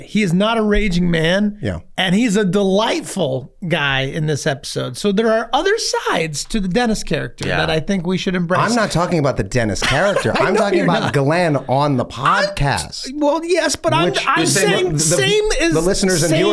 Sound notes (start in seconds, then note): 9.8 laughs